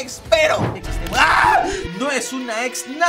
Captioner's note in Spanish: Grita